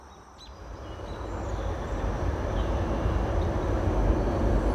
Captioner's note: regular train approaches